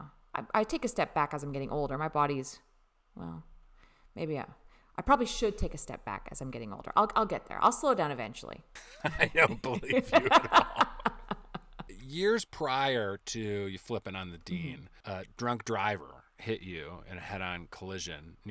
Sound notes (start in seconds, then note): 10.8 bemused laughing